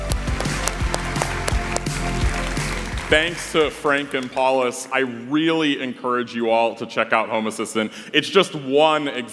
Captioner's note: applause